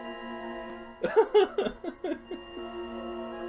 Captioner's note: laughs